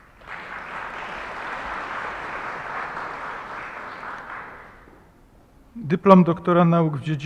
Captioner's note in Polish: oklaski